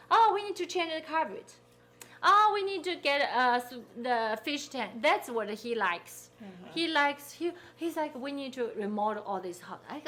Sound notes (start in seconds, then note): none